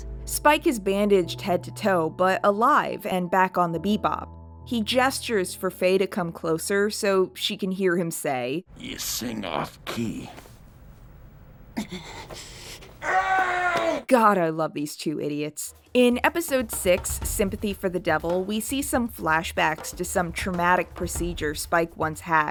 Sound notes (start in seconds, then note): 13.0 Spike yells in pain